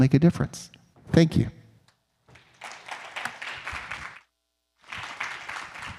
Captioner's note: audience clapping